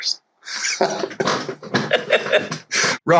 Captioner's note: laughter